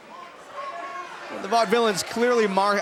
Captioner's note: crowd cheering